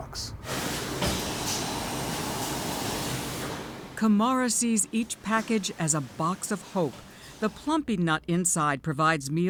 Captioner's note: voice-over